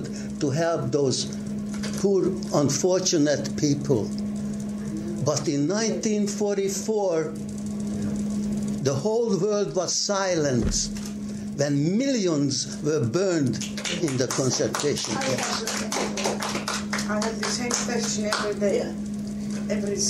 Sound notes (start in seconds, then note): 15.9 applause